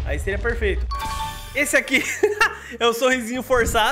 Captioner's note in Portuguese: risos